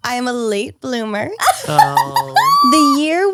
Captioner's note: laughs